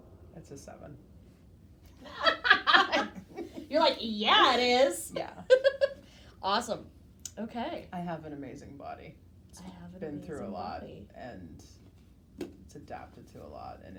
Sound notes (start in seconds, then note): 2.0 laughs